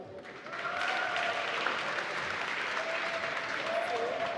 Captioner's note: applause